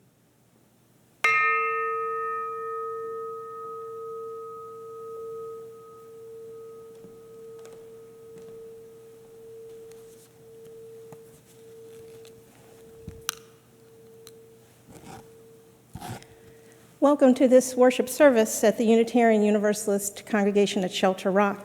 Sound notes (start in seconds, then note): 1.2 bell rings